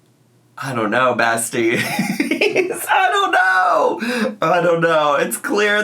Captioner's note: laughs